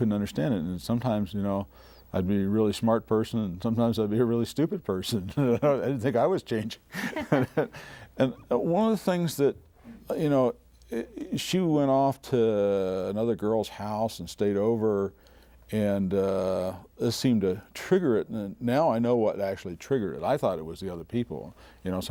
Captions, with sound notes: And sometimes, you know, I'd be a really smart person and sometimes I'd be a really stupid person. [ Laughing ] I didn't think I was changing. One of the things that, you know... She went off to another girl's house and stayed over, and, uh, this seemed to trigger it. And now I know what actually triggered it. I thought it was the other people,